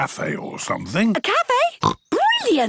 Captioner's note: snorts